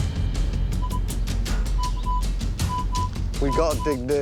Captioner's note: beeping